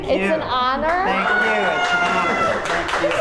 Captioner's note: cast and crew cheer